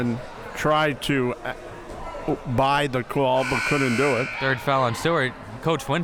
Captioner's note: buzzer drowns out